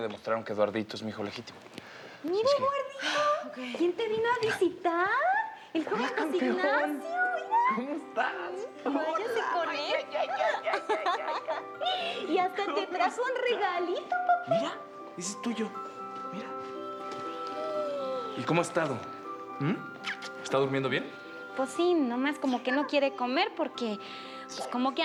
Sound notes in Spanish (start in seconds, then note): 12.2 Risas